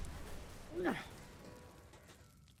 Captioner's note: grunts